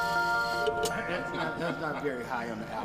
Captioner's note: glass clinks